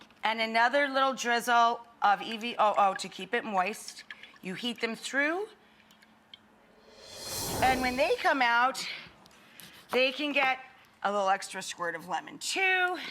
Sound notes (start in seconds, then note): 6.8 air whooshing